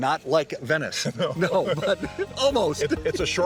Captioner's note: both laughing